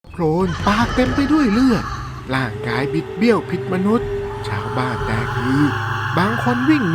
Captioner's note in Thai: เสียงหัวเราะ